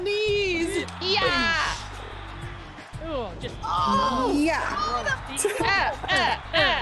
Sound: laugh

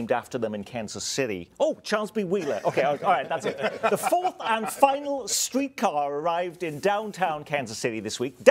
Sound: laughter

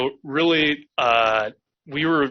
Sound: laughs

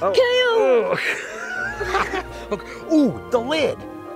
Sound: both laughing

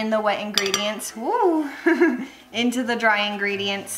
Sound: laughs

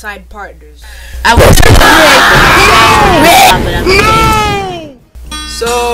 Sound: everyone complaining

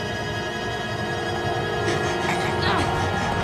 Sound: groaning

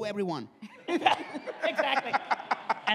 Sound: all laugh

